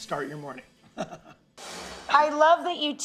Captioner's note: laughs